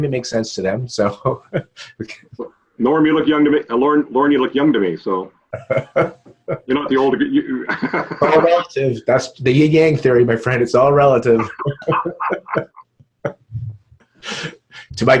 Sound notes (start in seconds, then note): 5.5 laughs; 7.8 murmurs; 11.3 both laughing